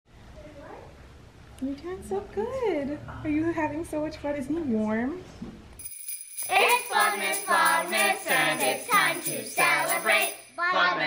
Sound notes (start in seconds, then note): 5.8 bells jingling; 6.1 children singing